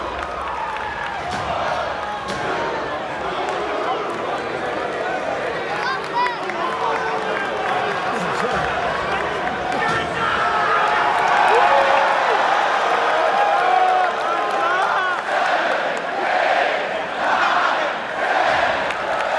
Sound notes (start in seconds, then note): 3.5 crowd groans; 11.0 crowd cheers